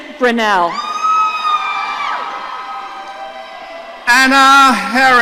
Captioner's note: audience cheering